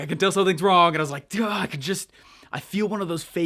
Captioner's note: sighs